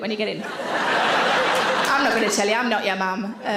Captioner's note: audience laughs